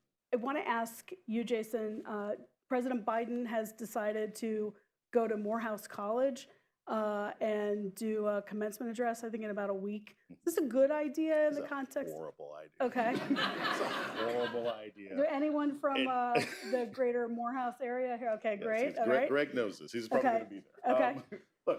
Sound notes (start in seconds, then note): 12.9 laughter; 20.9 laughs